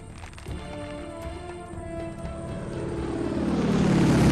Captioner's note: leaves crunching; airplane engine buzzes